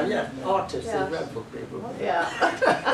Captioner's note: chuckles; laughter